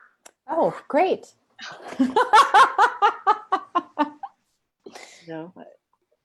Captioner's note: laughs